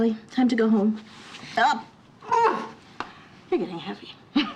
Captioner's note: grunts; chuckles